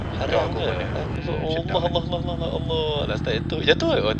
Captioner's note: panic noises; panicked conversations